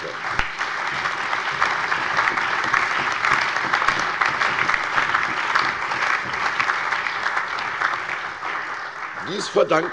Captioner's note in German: Allgemeiner Beifall